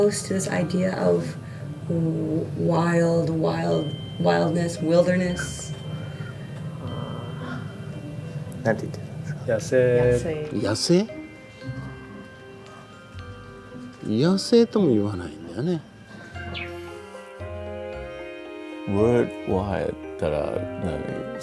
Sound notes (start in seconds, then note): 14.0 speaking in foreign language